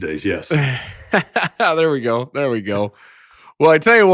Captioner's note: laughs